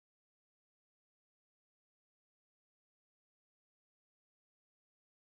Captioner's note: none